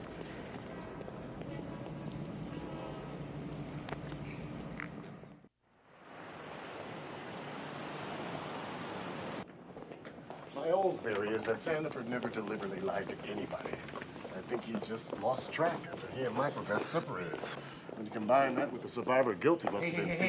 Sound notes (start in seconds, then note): 0.0 feet clacking; 0.1 people chattering; 6.4 vehicles whirring; 9.9 feet clacking